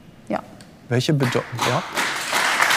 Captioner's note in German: Applaus